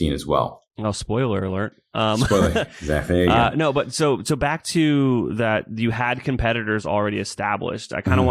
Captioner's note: laughs